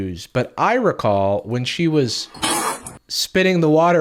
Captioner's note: spitting